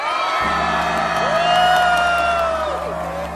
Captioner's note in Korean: 환호